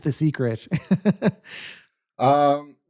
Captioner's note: laughs